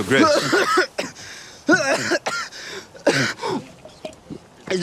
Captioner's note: coughing